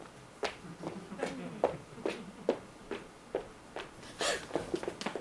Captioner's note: audience laughs